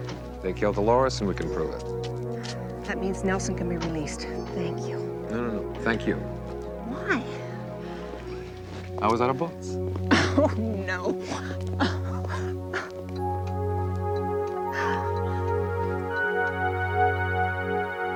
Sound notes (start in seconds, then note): 11.8 laughs; 13.8 soft music